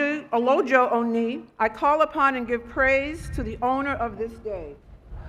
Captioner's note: speaking Foreign Language